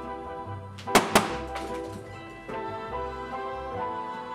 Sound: balloons pops

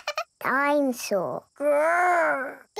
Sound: chuckles

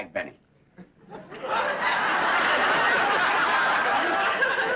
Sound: audience laughs

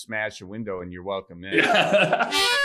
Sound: laughing

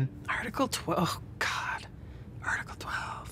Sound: groans

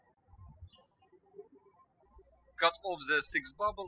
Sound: birds chirping

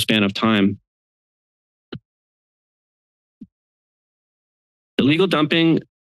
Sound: silence

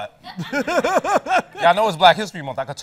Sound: laughs

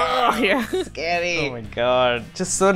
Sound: laughs

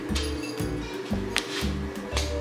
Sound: slap

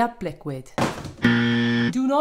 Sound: buzzer

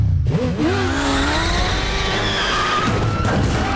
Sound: tires screeching; indistinct screaming

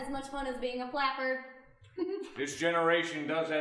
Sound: giggling

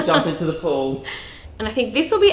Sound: laughs

